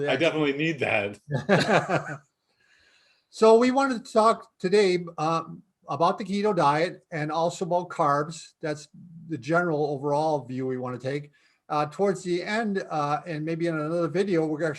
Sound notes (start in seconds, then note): 1.3 laughing